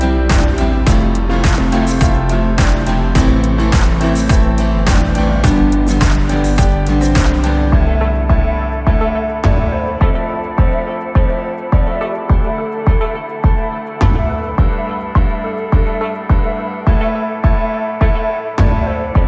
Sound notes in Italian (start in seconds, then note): 7.2 Applauso